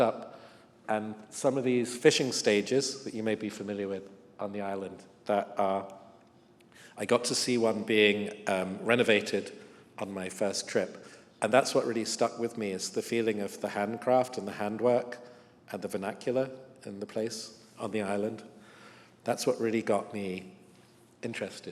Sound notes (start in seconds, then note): none